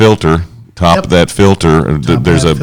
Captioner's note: blubbers